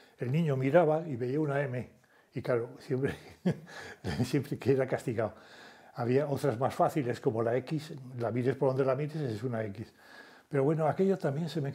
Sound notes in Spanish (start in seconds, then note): 4.0 Ríe